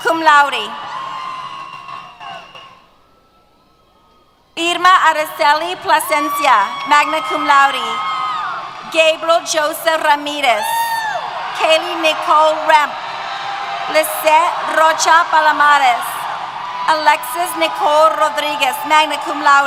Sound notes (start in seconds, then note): 0.0 cheers